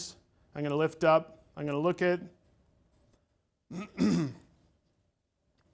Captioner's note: clears throat